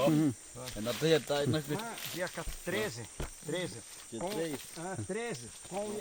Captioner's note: speaking Yanomami